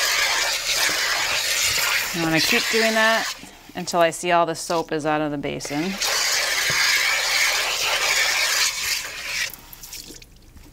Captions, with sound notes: You wanna keep doing that until I see all the soap is out of the basin, (water splashing)